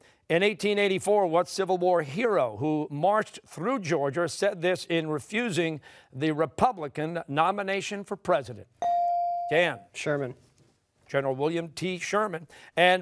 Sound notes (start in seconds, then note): none